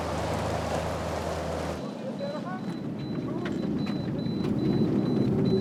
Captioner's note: car beeping